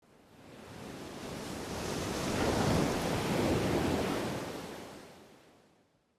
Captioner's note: waves crashing